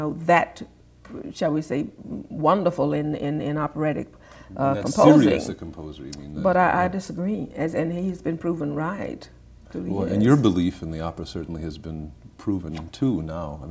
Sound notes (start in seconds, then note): 4.5 murmurs